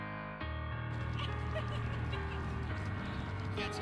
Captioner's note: laughter